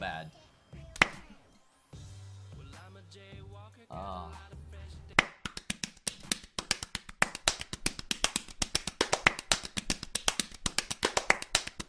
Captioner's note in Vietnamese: Face palm